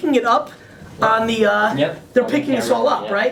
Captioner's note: voiceover